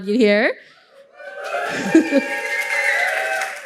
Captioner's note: applause